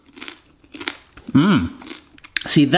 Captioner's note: pasta crunching loudly